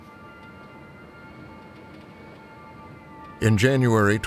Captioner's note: quietly